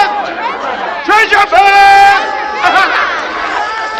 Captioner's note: crowd cheering; laughter